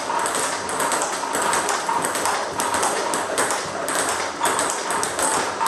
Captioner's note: ball ping pong hitting continues